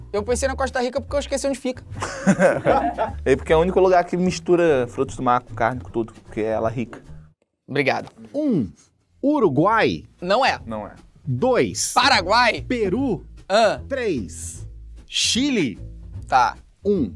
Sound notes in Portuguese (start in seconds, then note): 2.0 risadas